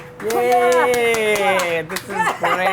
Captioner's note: claps